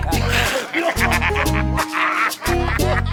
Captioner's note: laughs